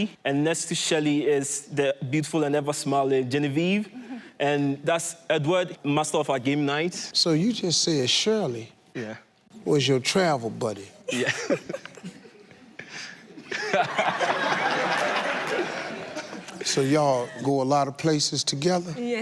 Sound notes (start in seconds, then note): 11.1 laughs; 14.1 audience laugh